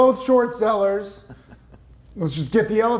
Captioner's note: chuckles